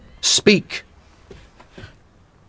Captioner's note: footsteps